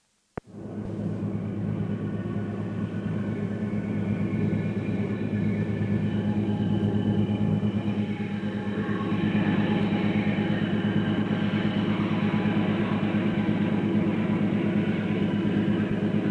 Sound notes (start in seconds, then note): 0.5 sound of train moving